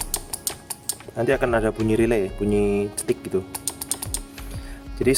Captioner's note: clicking sound